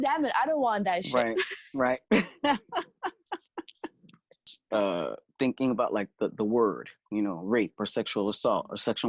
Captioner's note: laughing